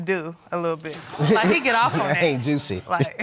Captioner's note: chuckling